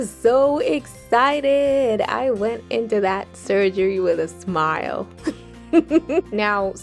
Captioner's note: laughs